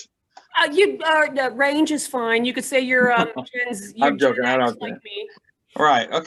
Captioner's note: laughing